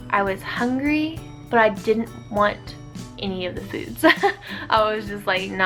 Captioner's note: laughs